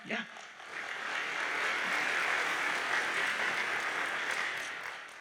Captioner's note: audience applauds